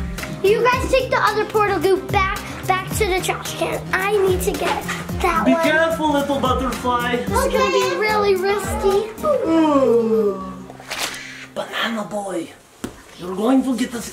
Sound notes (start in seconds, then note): 9.1 purple rainbow ghost yawns; 9.6 portal goo squelching